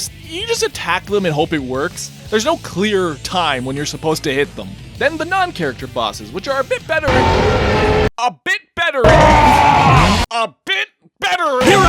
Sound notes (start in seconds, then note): 7.0 biolizard noises; 9.0 king boom noises